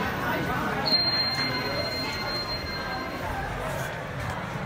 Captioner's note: up chime rings